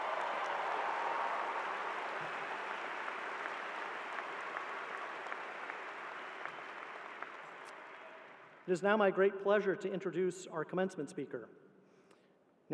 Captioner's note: cheers and applause